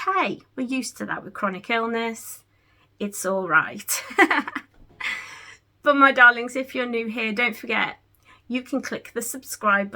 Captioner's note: giggles